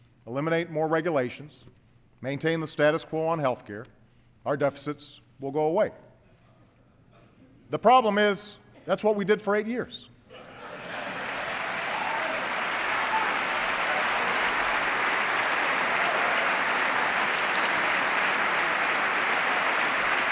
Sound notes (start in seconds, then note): 13.4 applause